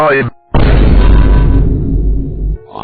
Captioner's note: Vine boom